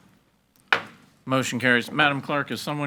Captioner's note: hammer slamming